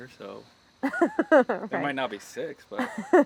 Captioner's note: Claire laughs